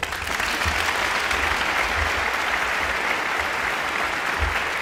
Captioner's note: audience applauding